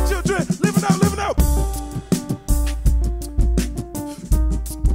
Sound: beatboxing

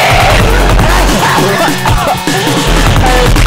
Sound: both coughing

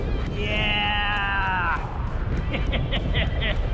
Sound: laughs

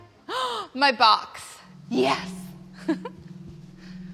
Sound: gasps; laughs

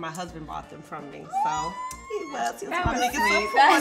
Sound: squealing

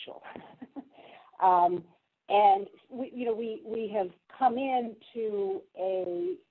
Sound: laugh

